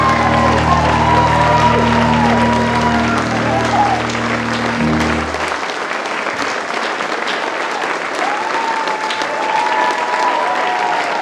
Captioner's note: applause